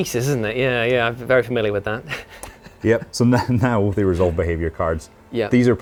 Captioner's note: laughs